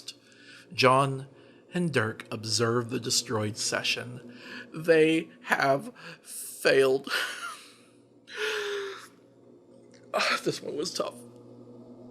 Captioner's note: uncontrollable sobbing